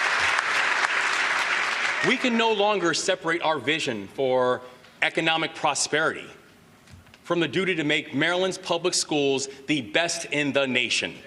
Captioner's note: applause